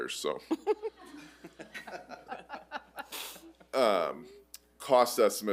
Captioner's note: board members laughing